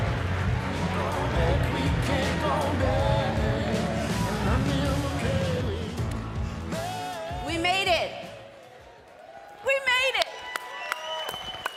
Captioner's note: cheers and applause